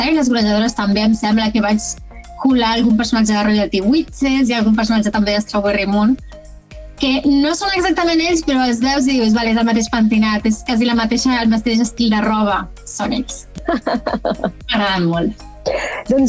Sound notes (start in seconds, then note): 13.6 laughs